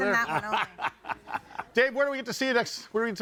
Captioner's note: laughing